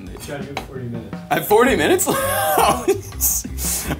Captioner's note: laughs